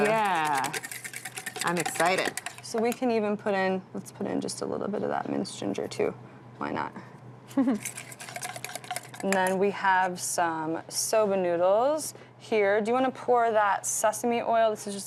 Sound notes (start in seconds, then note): 7.5 chuckles